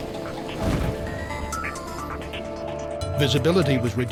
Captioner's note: sound of explosion